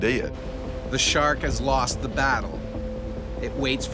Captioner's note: voiceover